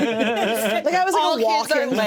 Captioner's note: all laugh